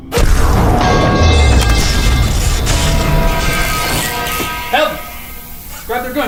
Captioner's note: gun firing; poles clanking